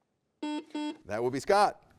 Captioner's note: buzzer buzzes